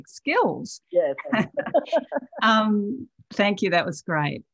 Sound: laughs

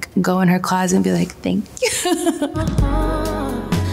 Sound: laughs

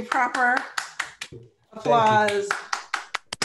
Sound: applauds

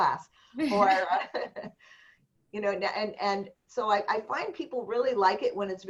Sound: laughter

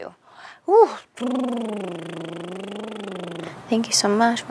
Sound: Vanessa blows raspberry

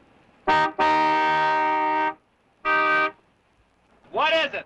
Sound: car horn honking

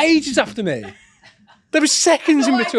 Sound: many laugh

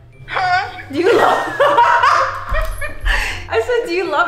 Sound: all laughing

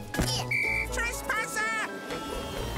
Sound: blows whistle

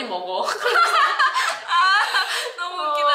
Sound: laughing

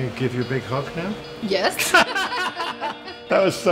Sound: both laugh

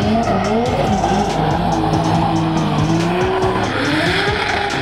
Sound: engines revving; upbeat music

